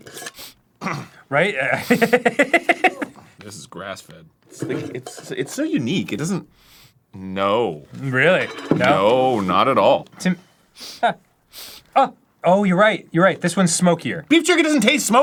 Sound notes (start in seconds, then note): 0.0 sniff; 0.8 grumble of regret; 1.5 laughs; 6.5 sniff; 15.0 passionately